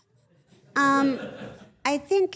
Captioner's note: everyone laughs